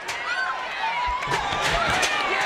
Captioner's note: fans gasp; chair clatters